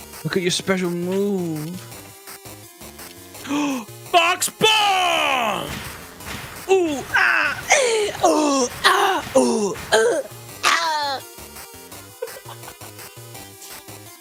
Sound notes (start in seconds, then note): 6.7 normal grunting; 12.2 laughs